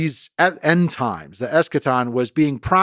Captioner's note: speaking in foreign language